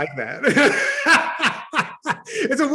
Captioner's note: laughs